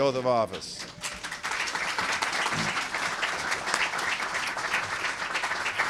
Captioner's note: applause